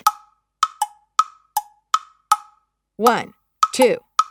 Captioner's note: metronome ticking; clave knocking rhythmically